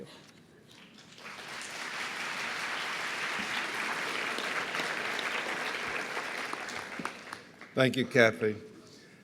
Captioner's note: appaluse